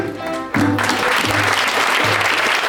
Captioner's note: applause